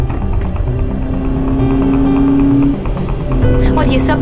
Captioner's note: Car speeding; Gear shifting